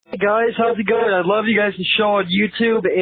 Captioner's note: voiceover